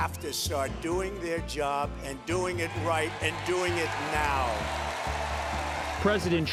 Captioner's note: cheers, applause